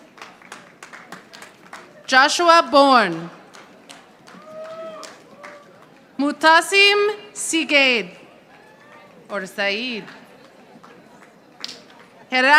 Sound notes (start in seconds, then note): 0.0 audience applauding; 10.2 audience applauding